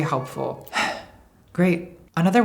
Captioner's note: bitter gay sighing